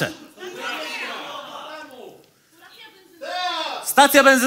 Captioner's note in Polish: krzyki publiczności